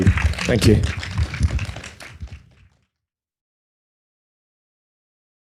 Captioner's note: audience applauding